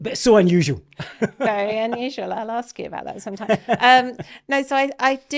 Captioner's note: laughing